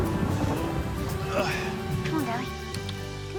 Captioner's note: grunts